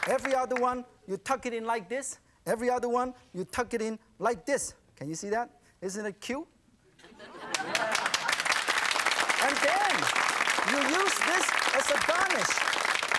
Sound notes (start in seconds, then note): 7.4 audience clapping